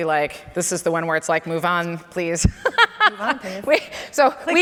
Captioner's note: laughs